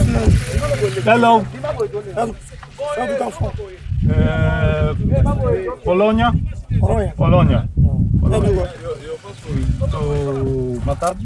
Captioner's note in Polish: rozmowa w j. angielskim